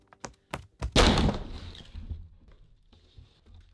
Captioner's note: smash